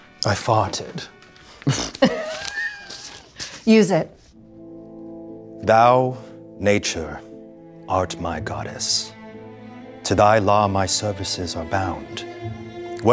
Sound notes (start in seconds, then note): 1.6 laughing